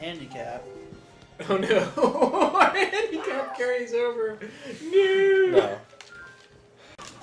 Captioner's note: laughing